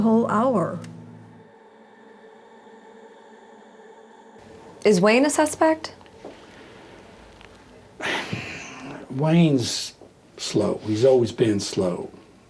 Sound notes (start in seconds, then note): 0.0 eerie music; 7.3 sighs